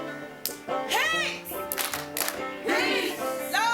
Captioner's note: claps